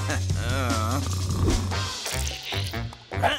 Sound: grunting; snoring; grunting

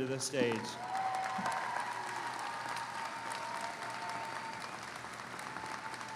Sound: audience applauding; audience cheers

